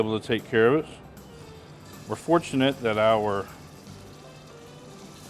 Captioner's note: bacon sizzling